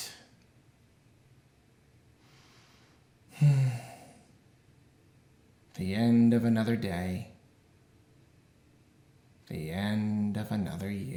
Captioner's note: sigh